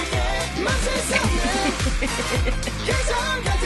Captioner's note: giggles